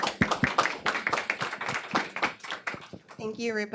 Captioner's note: audience applauds